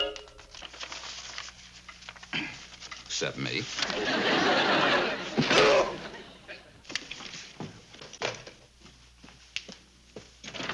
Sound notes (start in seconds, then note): 2.3 clears throat; 5.4 loud thud, shout